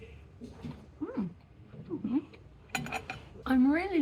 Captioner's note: happy mouth noises